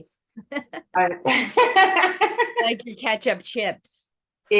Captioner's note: laughing